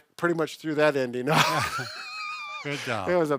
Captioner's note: both laughs